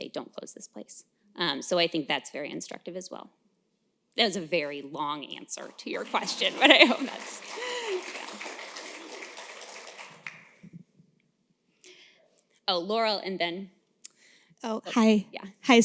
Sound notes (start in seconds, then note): 7.1 applause